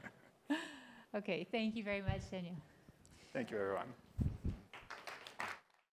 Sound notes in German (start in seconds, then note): 4.6 Beifall